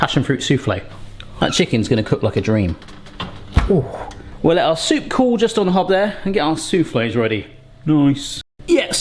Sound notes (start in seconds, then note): 2.4 door creaks